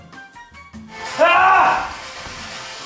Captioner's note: ahhh!